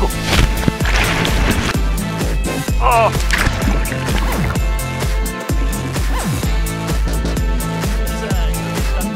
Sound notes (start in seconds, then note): 2.6 groans